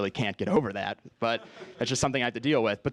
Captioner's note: laugh